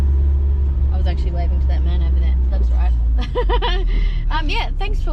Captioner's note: laughs